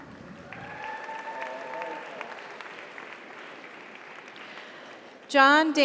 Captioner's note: audience applauds; audience cheers